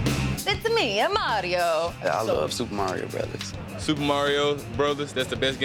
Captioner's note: italian accent